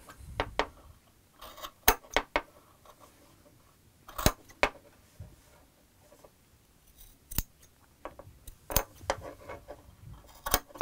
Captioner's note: scissor Sounds